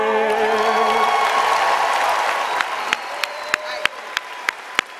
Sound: applause and cheering

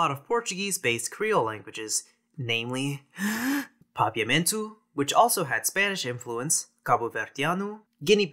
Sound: deep breath

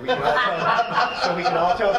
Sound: laughing

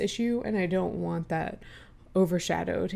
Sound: inhale

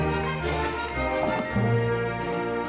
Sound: sniff

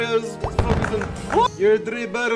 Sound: gunshot

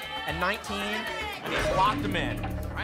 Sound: lock sound

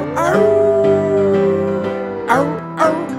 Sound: wolf howling

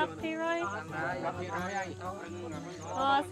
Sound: others chatter

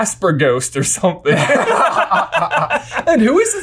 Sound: brothers laugh

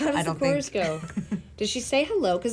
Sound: chuckling

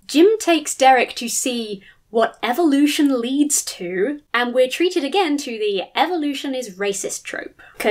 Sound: none

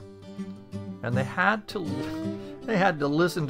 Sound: laughs

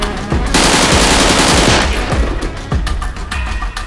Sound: gunshots

